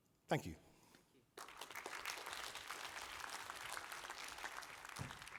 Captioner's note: applause